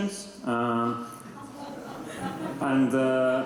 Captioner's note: laughter